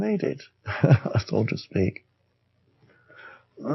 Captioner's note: laughs